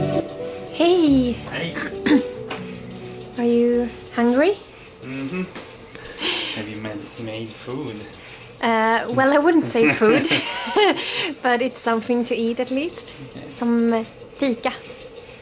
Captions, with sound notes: -Hey! -Hey. -Are you... hungry? -Mhm. Have you made food? -Eh, well I wouldn't say food [Laughs] But it's something to eat at least, Some "Fyka",